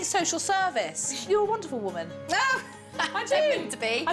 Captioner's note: laughs